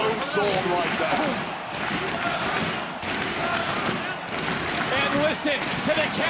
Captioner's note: crowd chants